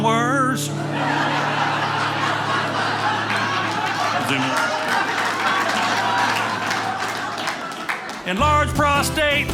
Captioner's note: audience laughing